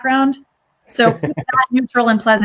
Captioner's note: laughs